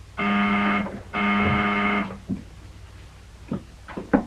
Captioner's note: buzzer blaring